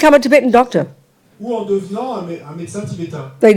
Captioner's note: audience member speaks in French